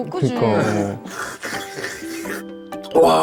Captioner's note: slurping noodles